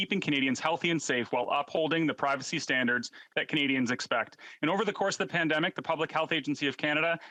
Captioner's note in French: voix de l'interprète